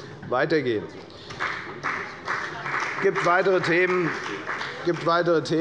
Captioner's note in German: Beifall bei der FDP